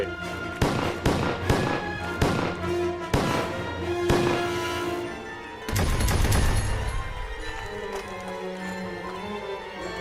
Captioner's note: gunshots